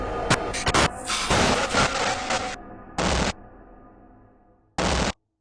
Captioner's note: static hissing intermittently